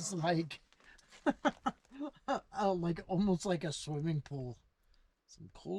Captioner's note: laughing